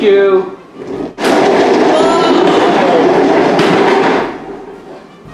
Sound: crash

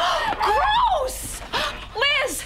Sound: gasp

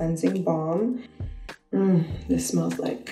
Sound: sniffs

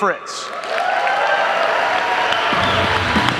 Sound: audience applauding; upbeat music

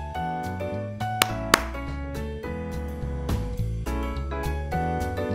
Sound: Madelaine claps

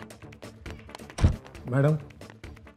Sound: door closes

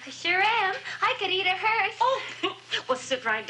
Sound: chuckles

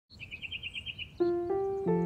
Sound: birds chirping

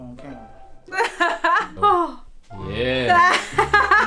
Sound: laughs

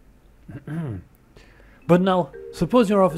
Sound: clears throat

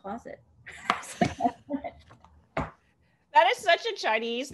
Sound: laughter

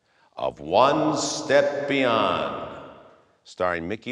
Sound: voice echoes

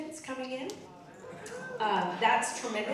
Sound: audience cheering

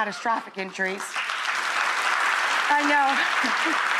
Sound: audience applauding

